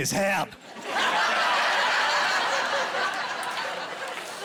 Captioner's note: laughing